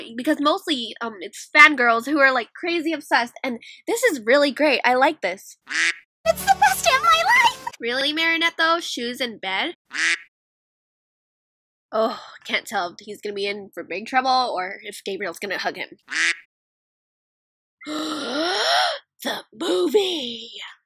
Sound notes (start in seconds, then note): 5.7 quack; 9.9 quack; 16.1 quack; 17.8 gasppp